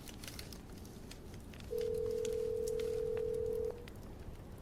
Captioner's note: line ringing